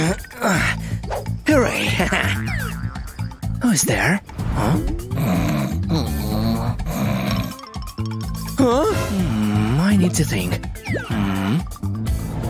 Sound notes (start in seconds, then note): 0.3 groans; 4.4 roaring; 5.1 snoring